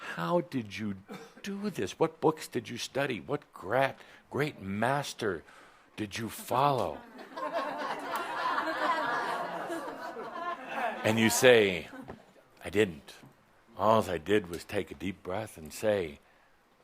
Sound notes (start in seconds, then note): 6.9 laughter